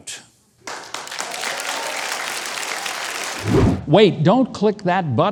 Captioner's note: audience applauds